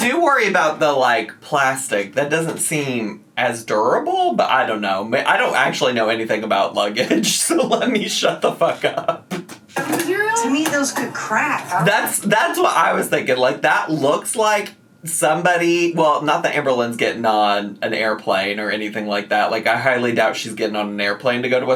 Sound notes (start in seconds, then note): 8.6 laughs